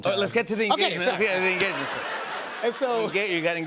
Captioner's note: laughter